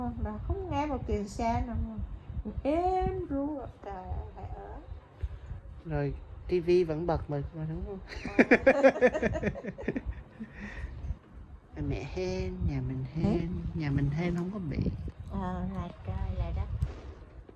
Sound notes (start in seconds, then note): 8.1 laugh